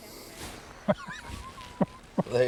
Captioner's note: laughter